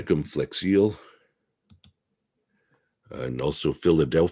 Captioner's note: mouse clicking